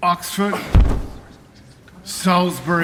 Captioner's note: thud